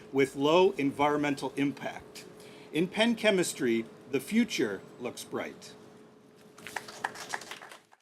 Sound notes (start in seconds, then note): 6.6 applause